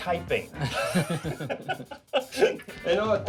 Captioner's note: laughing